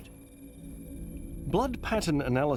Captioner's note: graphic whirs